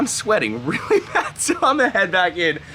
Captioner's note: laughs